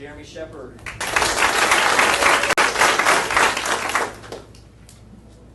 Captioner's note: audience applauding